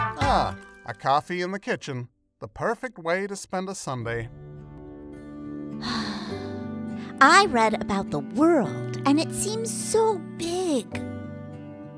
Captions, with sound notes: - Ah, a coffee in the kitchen, the perfect way to spend a Sunday. (gentle music) - (sighing) I read about the world, and it seems so big!